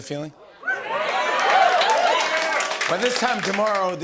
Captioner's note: cheering